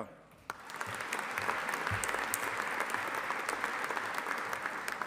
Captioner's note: audience applauding